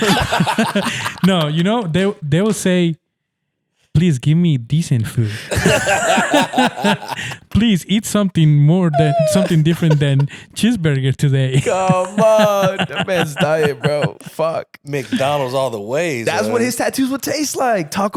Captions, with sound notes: (laughing) - No, you know, they will say, "Please give me decent food." (laughing) "Please eat something different than cheeseburger today." - Come on, that man's diet, bro. Fuck McDonald's all the way. - That's what his tattoos would taste like.